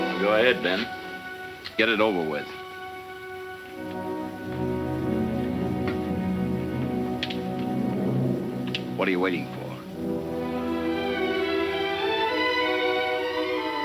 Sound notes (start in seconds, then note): 1.0 tense music; 6.8 gun clicking; 9.9 emotional music